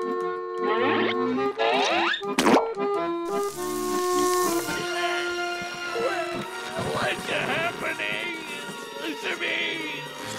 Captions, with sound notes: [sizzling] What's happening... to me?